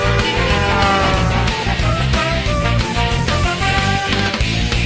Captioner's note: honking